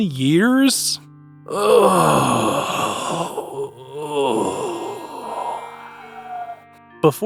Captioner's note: groaning